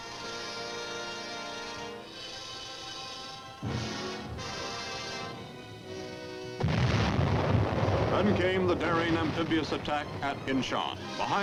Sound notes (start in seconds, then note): 0.2 dramatic instrumental music; 6.6 explosion